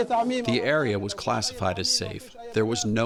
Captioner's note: through translator